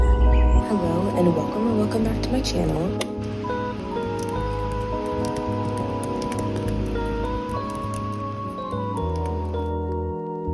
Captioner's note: typing sounds